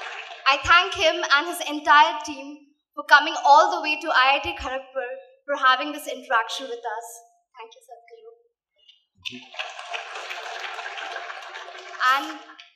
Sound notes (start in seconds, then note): 9.2 applause